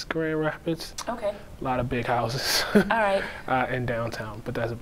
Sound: chuckling

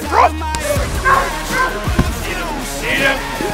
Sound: barking

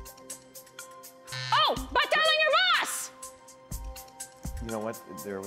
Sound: buzzer

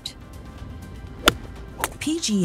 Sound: golf balls smacking

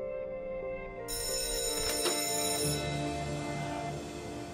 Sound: school bell rings

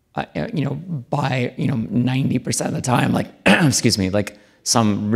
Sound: coughs

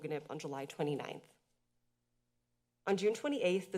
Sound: pause

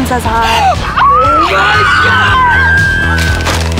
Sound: shrieking; gasps

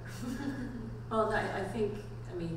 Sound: laughs

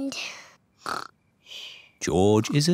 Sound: snores

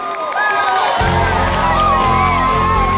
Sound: crowd cheering; uplifting music

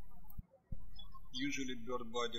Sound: birds chirping

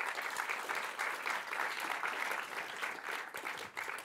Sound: applause

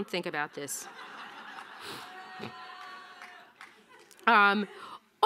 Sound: audience laughing

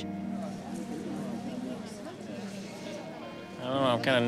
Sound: indistinct chatter

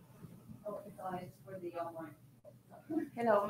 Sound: speaking faintly

